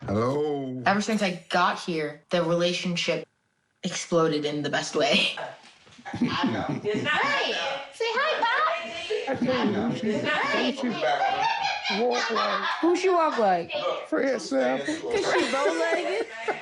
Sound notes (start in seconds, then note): 6.0 giggles; 14.8 laughs